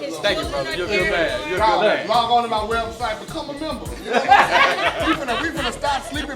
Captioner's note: laughing